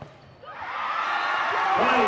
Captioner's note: loud cheering and whistle blowing